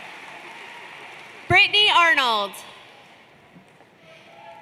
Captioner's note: applause